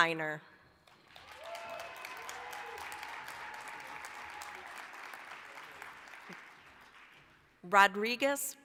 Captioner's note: applause